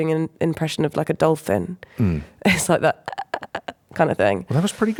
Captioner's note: throaty sounds